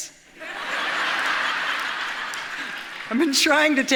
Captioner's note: audience laughs